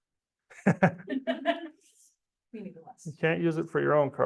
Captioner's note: both laughing